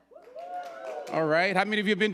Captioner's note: audience cheering